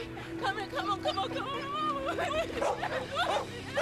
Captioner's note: crying; dog barking